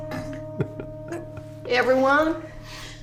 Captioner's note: giggling